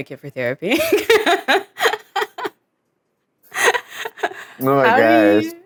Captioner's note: laughs